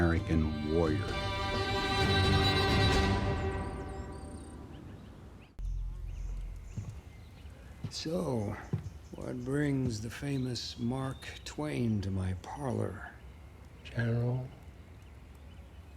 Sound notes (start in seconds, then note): 3.1 birds chirping